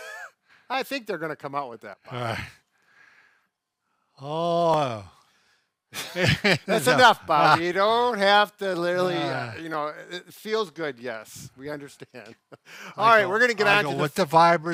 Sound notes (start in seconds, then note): 6.0 laughing